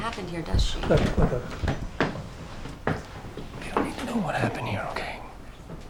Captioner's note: whispering